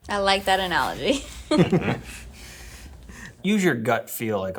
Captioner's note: all laugh